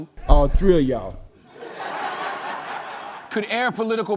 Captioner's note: laughter